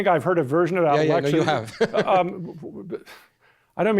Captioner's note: laughs